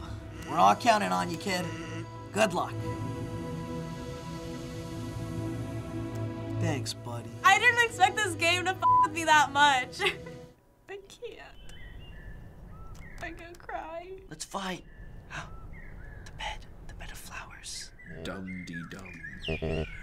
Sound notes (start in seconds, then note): 3.6 touching music; 11.6 birds twittering; 15.4 gasping